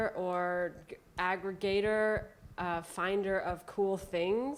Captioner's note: none